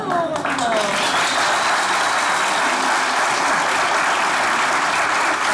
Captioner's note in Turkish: Alkış sesleri